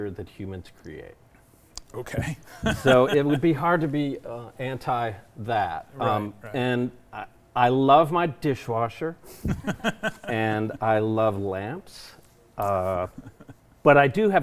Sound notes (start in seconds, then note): 2.4 chuckles; 9.4 chuckles